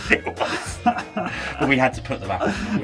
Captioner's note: hosts laughing